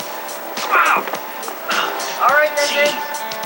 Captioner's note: grunting